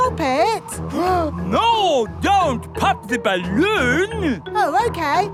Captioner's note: gasps